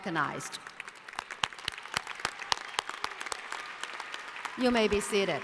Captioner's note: applause